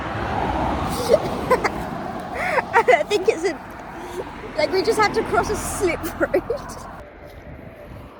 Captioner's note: laughing